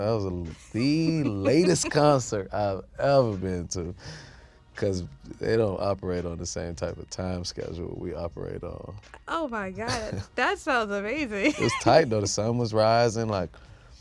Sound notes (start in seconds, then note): 11.5 laughs